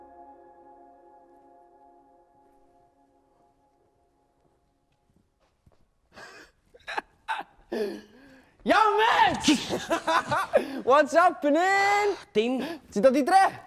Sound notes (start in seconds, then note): 9.3 laughs